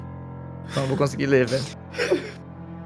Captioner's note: laughs